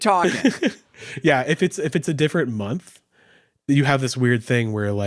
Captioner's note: laughing